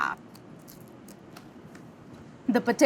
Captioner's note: sandwich crunches